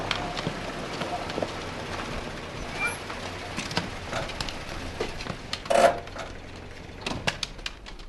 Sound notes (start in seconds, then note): 5.2 parking brake